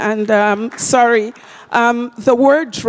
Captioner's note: applause